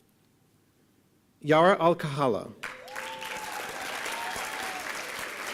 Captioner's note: applause